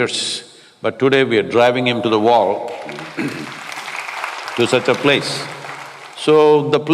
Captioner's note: applause